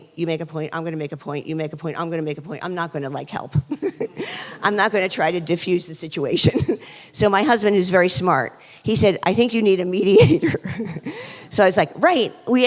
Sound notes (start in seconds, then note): 3.6 laughs; 10.0 chuckles